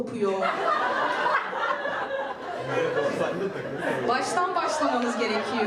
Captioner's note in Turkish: Gülüşmeler